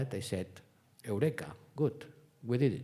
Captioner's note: speaking foreign language